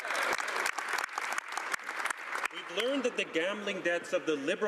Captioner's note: speaking French